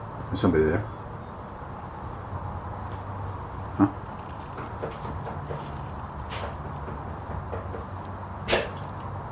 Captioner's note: knocking